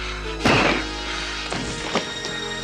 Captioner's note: punch thudding; tense music